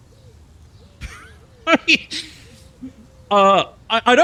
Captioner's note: laughs